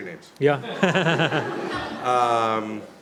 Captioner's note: laughter